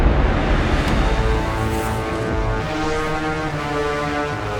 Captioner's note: light whooshing